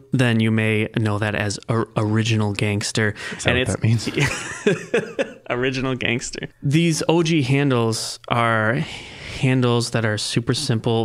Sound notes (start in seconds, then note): 4.0 laughing